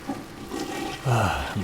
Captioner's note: toilet flushes